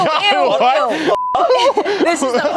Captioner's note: beep